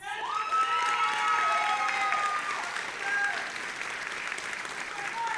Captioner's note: audience applauding and cheering